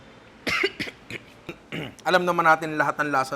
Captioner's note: clears throat; chokes